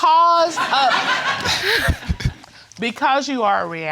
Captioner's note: all laughing